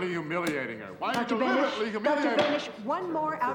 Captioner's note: slams gavel